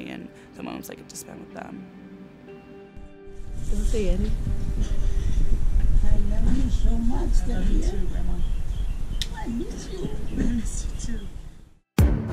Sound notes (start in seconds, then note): 3.5 speaks in foreign language; 6.2 Talia's grandma speaks in foreign language